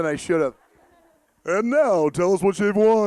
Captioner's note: audience laughing